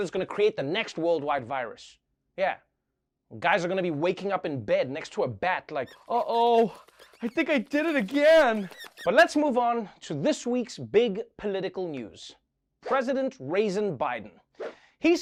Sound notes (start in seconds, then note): 8.4 squeaking